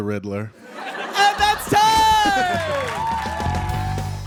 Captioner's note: audience laughs